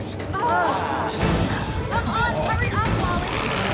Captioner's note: group groans